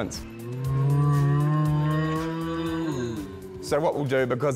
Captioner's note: both mooing